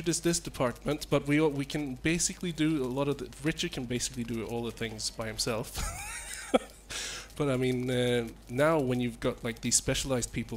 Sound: laughs

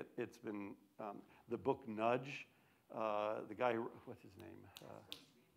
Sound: snaps fingers

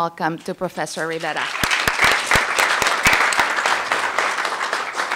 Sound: applause

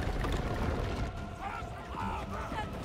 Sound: shouting in Thayan

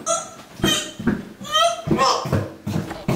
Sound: gagging

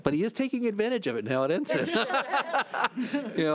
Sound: laughing

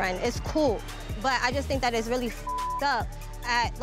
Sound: beep

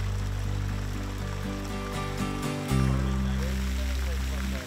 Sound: upbeat music; rushing water

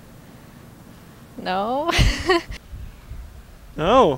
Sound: laughs

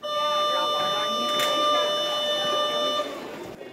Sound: school bell rings

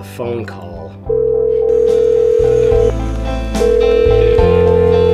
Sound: phone ringing

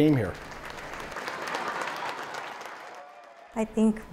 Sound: applause

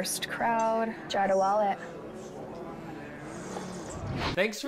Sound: slurps drink

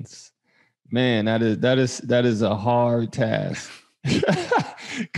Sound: laughs

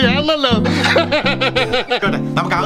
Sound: laughs

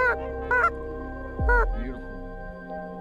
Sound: bird calls

